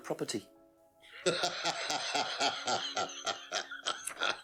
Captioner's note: laughing